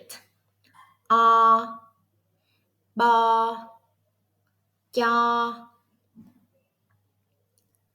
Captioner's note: Vietnamese